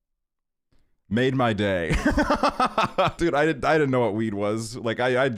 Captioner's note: laughs